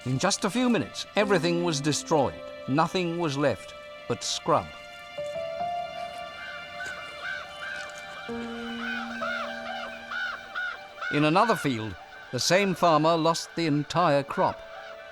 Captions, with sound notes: In just a few minutes, everything was destroyed. Nothing was left but scrub. [piano music] [crows cawing] In another field, the same farmer lost the entire crop.